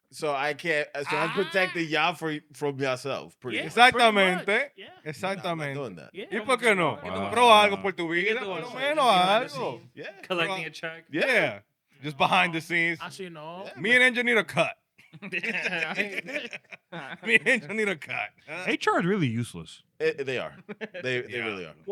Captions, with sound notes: So I protect the job from yourself. (Speaking In Foreign Language) Just behind the scenes. Me and Angel need a cut. (Laughing) Me and Angel need a cut. HR is really useless. They are, they really are.